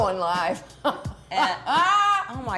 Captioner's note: laughs